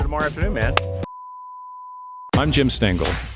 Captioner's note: beep